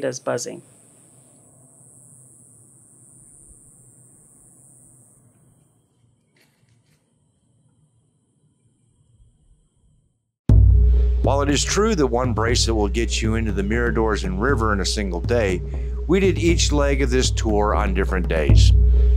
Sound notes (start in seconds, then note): 1.6 buzzing Cicadas